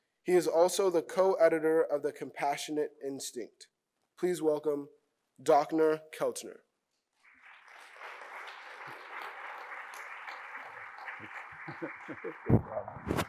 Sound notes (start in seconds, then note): 7.2 audience clapping